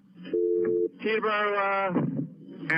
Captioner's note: phone beeping